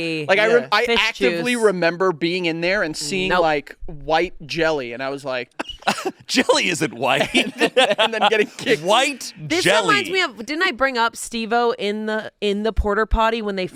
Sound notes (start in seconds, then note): 5.6 laughs